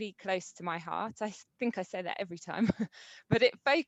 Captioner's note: chuckles